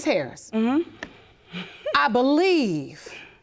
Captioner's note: giggling